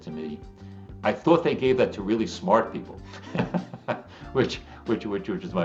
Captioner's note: laughs